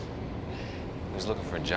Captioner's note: sighs